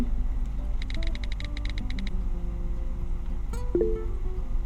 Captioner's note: touch pad clicking; mobile chiming